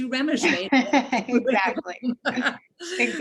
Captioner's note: laughs